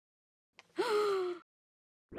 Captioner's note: gasp